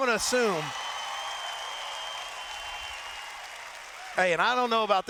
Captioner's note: cheers